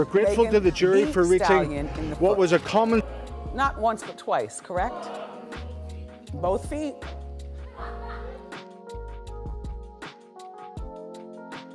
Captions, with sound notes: - We're grateful to the jury for reaching what was a common- - Meghan "The Stallion," in the foot. Not once but twice. Correct? (audience gasps) Both feet. (soft music)